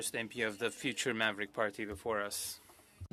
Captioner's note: speaking French